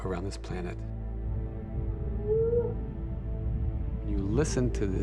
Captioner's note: whale bellows